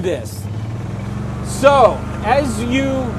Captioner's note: cart humming